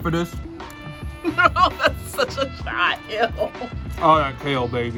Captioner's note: laughs